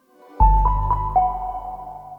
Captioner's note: logo chiming